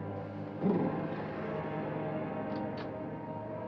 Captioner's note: ominous music; man shudders; door opens